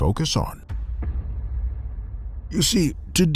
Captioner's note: cinematic hit